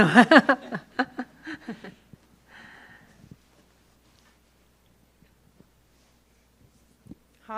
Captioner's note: laughs